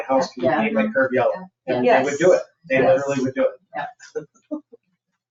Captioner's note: people chattering